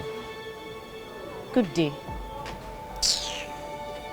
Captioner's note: hisses